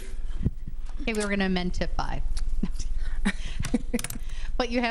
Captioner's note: laughs